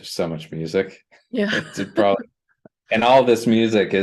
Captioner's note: laughter